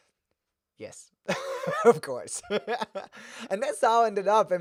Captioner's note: laughs; laughs